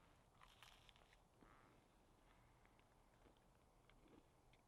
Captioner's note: chewing noises